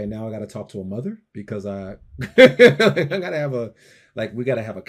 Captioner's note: laughs